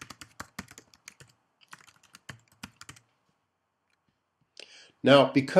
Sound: typing

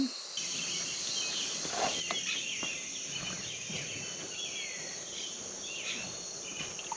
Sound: insects trilling and birds chirping

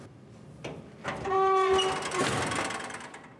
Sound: window squeaks

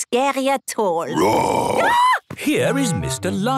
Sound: roar, scream

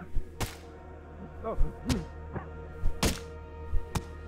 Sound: grunts

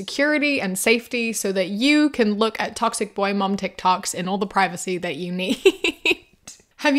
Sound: laughs

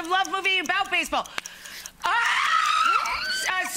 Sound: Rachael screams

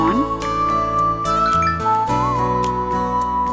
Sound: cell phone chimes

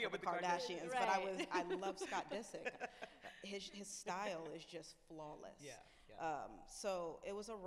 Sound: laughs

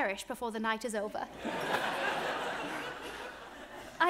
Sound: audience laughs

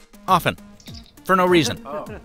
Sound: badge chirps; man chuckles

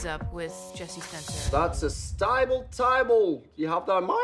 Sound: Australian accent

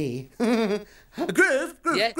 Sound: laughs

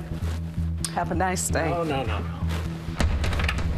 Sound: locks door

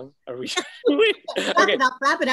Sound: laughing

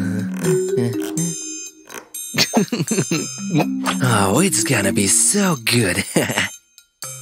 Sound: muffled giggling; whispering

